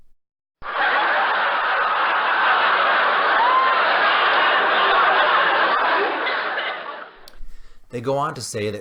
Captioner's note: laughing